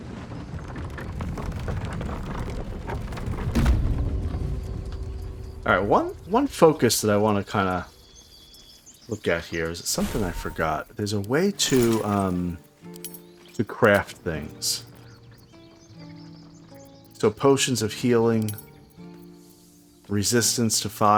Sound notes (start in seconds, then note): none